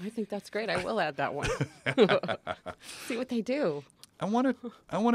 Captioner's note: laugh